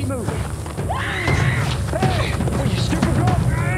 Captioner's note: screams